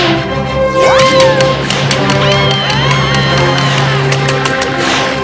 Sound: screaming

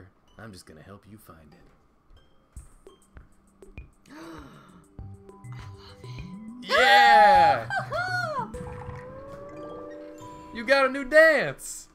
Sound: gasps

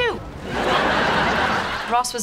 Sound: background laughter

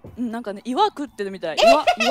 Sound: laughs

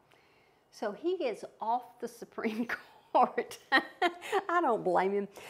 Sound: laughs

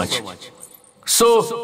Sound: anklet tinkling

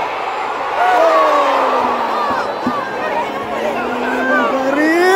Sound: clap

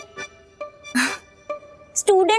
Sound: sighs

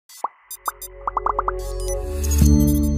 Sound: computer clicking; logo popping; soft music

